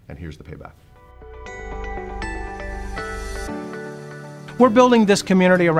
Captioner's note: bright chiming tones